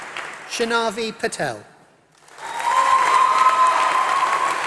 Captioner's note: applause